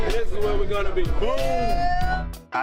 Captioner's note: cheering